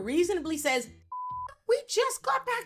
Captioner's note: beep